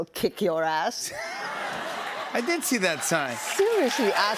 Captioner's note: laughter